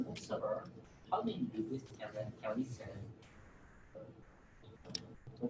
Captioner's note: audience member speaks from a distance